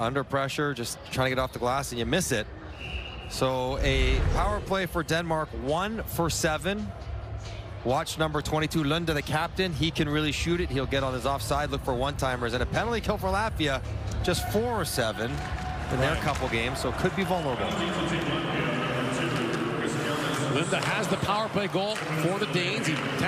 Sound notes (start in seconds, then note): 8.5 applause